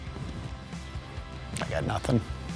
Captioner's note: groaning